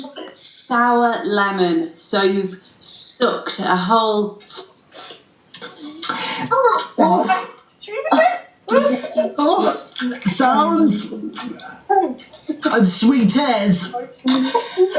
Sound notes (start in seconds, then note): 5.6 lip smacking, high pitched sounds